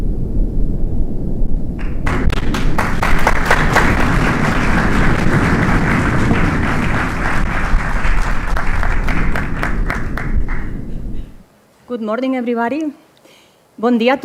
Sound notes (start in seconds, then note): 2.4 audience applauding; 14.0 speaks in foreign language